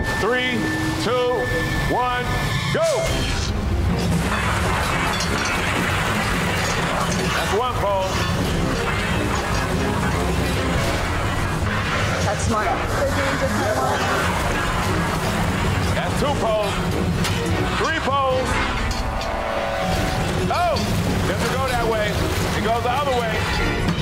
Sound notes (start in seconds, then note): 0.0 ominous music; 0.0 water rushing; 4.0 metal clanging; 4.0 urgent music; 18.9 metal clanging; 20.1 urgent music